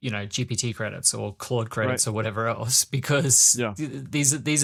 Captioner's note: laughs